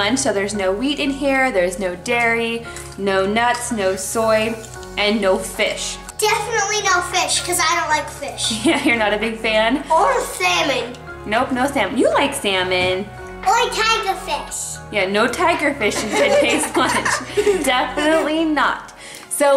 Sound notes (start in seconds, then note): 9.0 laughs